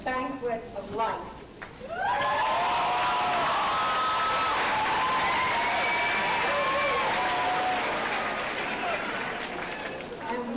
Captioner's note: audience cheers and applause